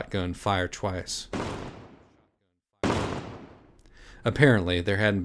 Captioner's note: offscreen: two shot gun blasts